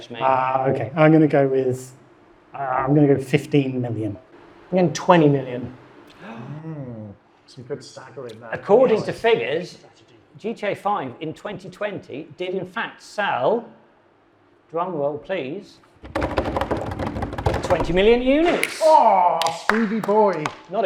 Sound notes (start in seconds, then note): 16.0 hands tapping; 19.3 hands clapping